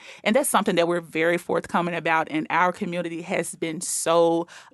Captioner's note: none